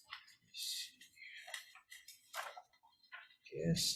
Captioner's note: paper rustling